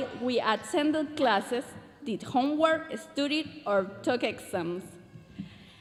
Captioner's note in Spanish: continúa hablando en inglés